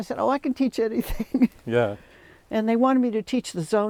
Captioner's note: laughing